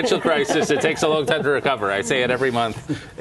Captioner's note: laughter